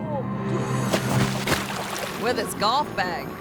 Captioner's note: water splashing